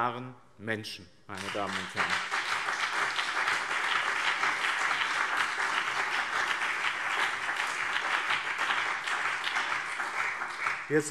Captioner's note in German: Beifall BÜNDNIS 90/DIE GRÜNEN und CDU